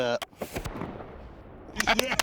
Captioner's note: bang; clapping